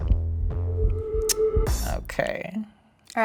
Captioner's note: sneers